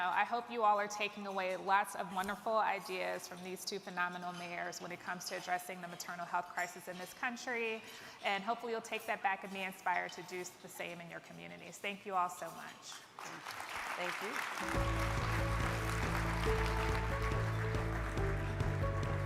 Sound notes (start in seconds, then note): 13.1 crowd clapping; 14.6 energetic music